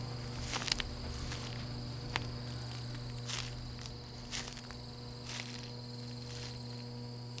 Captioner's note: insects chirring; power lines humming